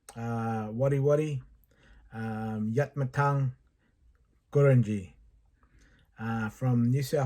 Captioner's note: speaking Indigenous Language